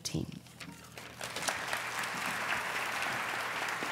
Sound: applause

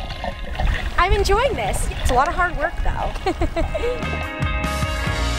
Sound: laughing

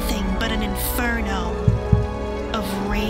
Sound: heartbeat

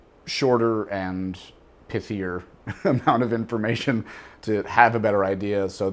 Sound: laughs

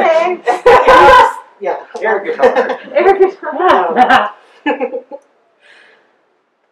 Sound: audience giggles

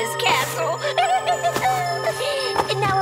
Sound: witch cackles

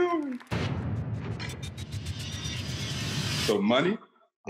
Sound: intense sound effect

